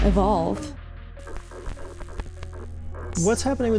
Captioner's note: static-y noise